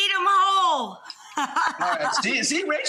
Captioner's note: Rachael Ray laughs